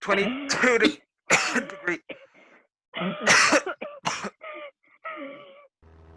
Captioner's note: coughing; sound of airplane motor throughout